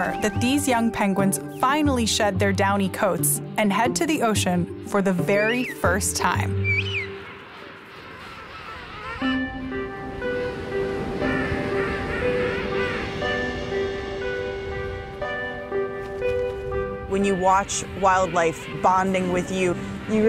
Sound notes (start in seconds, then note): 6.3 penguins chirping; 9.5 soothing music